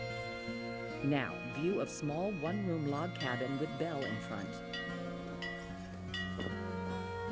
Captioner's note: bell clangs